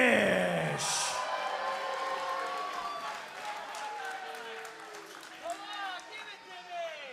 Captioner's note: crowd cheering